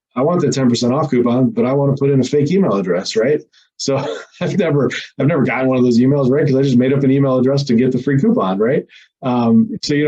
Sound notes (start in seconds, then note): 3.8 laughs